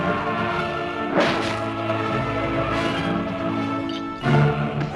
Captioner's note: sword slices